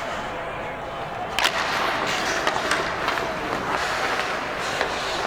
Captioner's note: hockey puck clanking